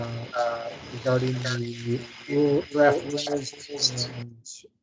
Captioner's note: voice distorted